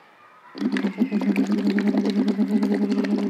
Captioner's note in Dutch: geluid van luchtbellen